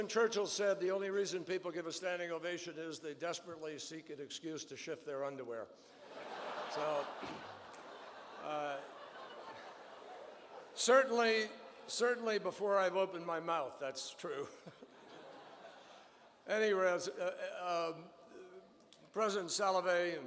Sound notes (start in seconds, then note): 7.7 laughter; 16.0 laughter